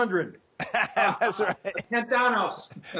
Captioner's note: laughs